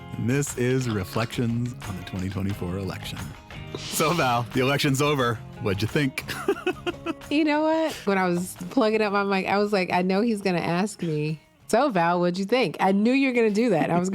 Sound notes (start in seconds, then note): 6.2 laughs a little